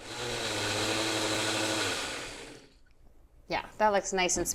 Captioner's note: blender whirring